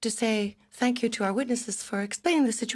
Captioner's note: speaking in French